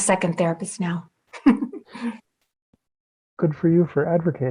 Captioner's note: laughing